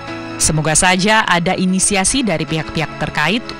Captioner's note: non-english speech